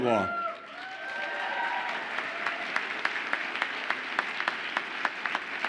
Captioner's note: audience applauds and cheers